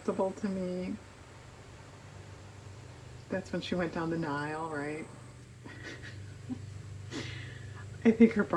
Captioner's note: laughs